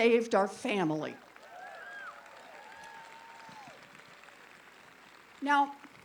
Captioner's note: applause